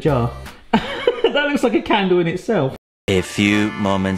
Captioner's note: laughs